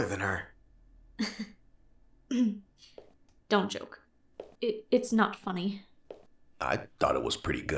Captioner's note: laughs